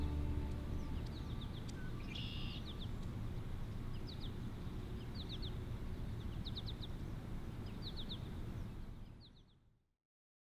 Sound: nature sounds

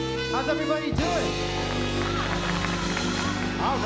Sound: applause

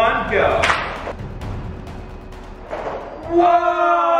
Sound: clacking

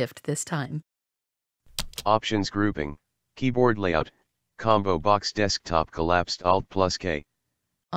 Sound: voiceover

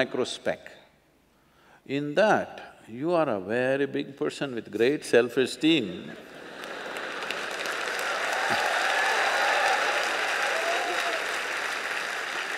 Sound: laughter/Applause/Cheers

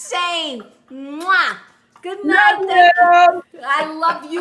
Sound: laughing

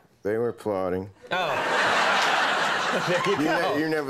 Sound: audience laughing

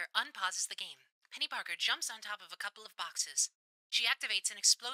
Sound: radio Filter

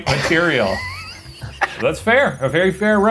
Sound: laughing

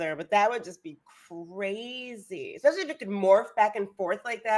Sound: none

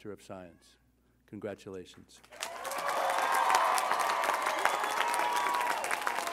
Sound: audience applauding

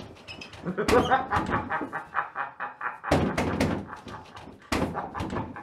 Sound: laughter

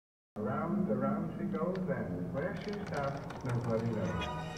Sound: tv audio

